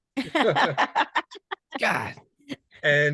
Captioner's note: laughing heartily